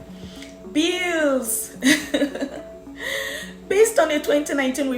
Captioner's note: laugh